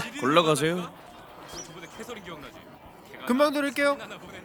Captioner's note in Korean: 시민 소음